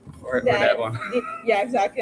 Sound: faintly speaking

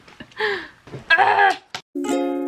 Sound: screaming

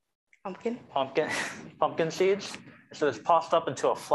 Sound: chuckling

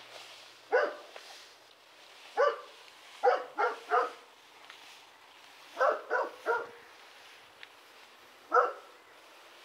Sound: scuffle scuffle

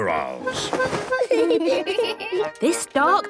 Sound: giggling

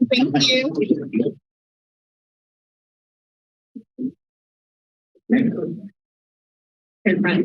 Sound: silence

